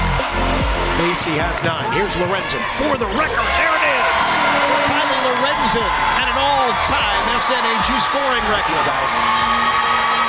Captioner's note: broadcast Announcer Voiceover